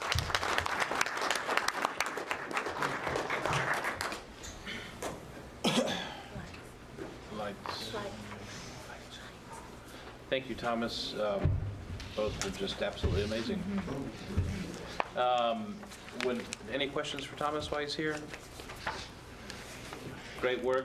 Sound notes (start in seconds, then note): 2.9 applause